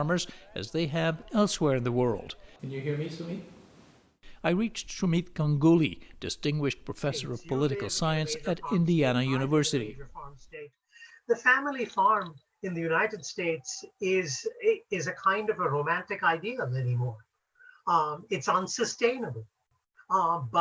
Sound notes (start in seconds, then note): 10.8 through translator